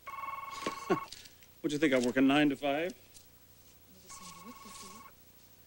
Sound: phone rings

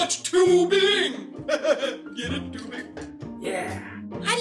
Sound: laughing

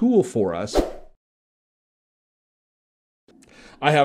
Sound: swoosh

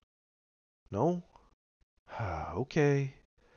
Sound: sigh

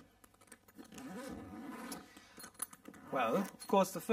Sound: zipper undoing

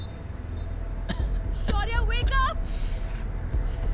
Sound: caveman coughing

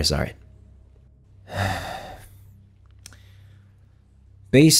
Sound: sigh

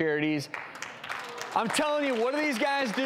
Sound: audience applauds

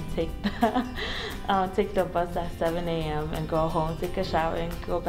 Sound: laughs

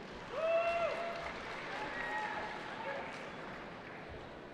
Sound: cheering

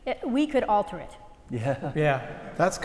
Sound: laugh

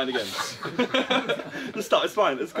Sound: all laughing

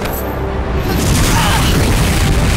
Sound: grunting

